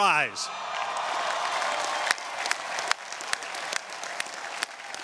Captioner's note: audience cheering